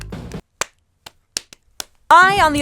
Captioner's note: upbeat music; clapping